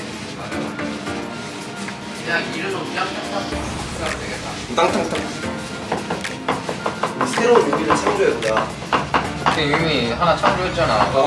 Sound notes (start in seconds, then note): 7.6 mincing garlic